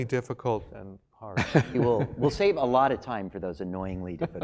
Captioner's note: laugh